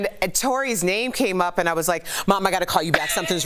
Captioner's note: laughter